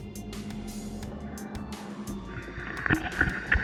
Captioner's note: boat in background